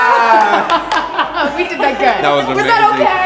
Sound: cheering and laughter

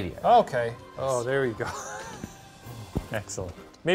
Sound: chuckles

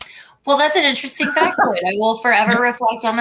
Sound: laughter

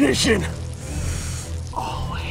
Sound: peeing

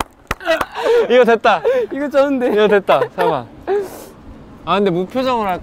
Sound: laughing

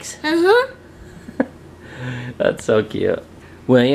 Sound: laughs

